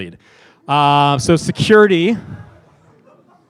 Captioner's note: laughing